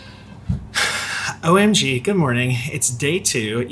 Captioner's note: sighs